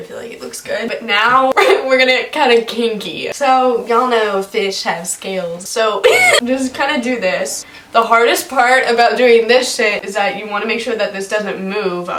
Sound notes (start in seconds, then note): 6.0 laughs